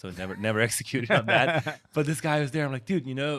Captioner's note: chuckles